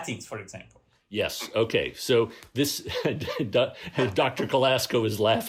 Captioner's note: laughter